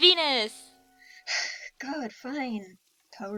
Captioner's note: angry huff